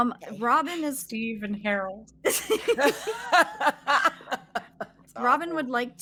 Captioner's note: laughing